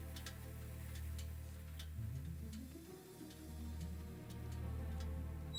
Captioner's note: engine clicking; suspenseful music